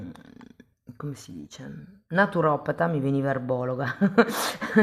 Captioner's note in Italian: risate